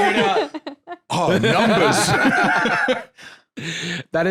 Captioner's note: both laughing